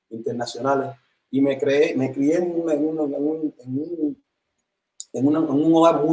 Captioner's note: sonido entrecortado